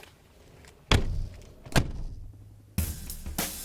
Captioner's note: doors closing